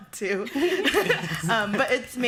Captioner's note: laughter